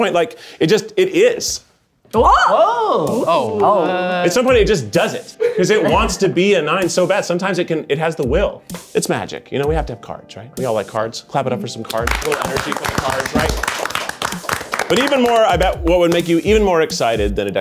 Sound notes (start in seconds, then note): 11.9 audience applauds